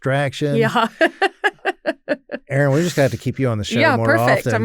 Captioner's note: laughs